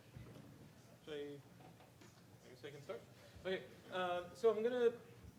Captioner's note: speaking faintly